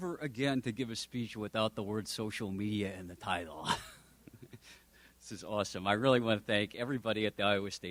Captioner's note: laughs